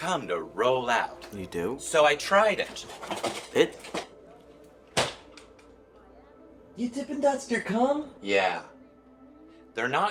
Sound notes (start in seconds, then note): none